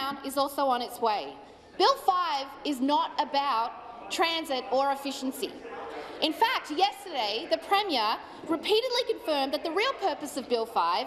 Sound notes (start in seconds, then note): none